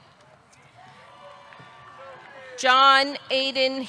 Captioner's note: audience cheering